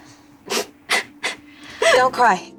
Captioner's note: patient Sobs